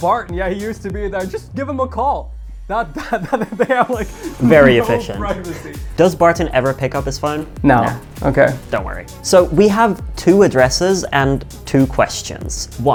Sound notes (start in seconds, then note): 3.0 laughing